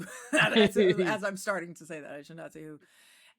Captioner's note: laughs